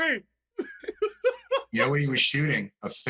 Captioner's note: laughter